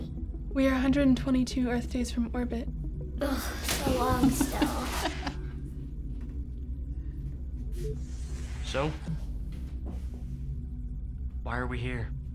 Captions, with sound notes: - We are 122 Earth days from orbit. - Ugh, so long still! (Flynn laughs) - So why are we here?